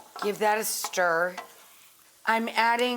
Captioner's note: mushrooms sizzling